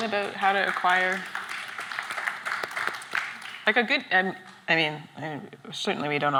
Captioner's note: applause